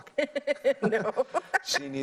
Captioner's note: laughs